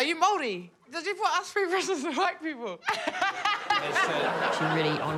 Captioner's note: laughs